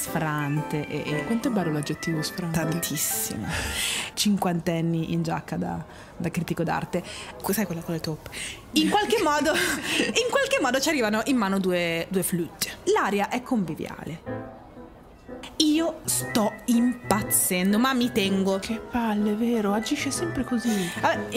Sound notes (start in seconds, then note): 8.7 laughing